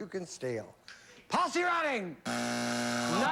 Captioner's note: buzzer